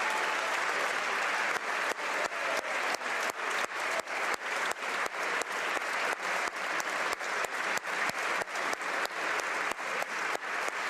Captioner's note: applause